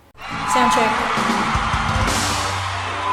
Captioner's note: applause